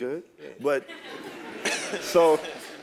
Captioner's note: laugh